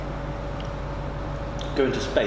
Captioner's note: chewing